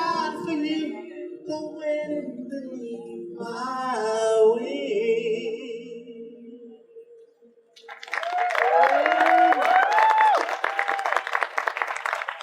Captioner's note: audience applause